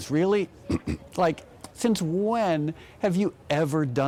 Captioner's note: clears throat